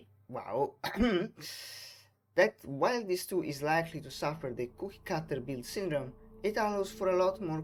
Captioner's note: ahem